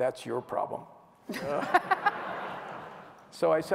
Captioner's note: laughter